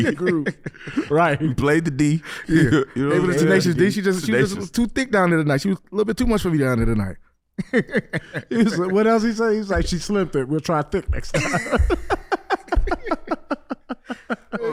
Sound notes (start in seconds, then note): 0.0 laughing; 7.6 HaHa laughs; 10.8 laughing